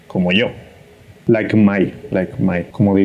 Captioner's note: says it in English